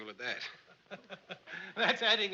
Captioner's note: laughing